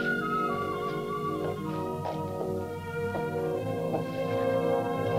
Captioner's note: footsteps tapping